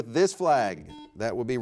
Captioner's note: buzzer beeps